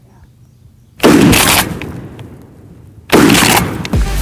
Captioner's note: gunshot